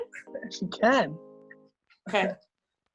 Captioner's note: laughs